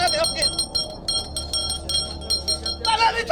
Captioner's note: intense bell jingling